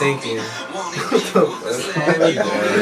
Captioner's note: laughs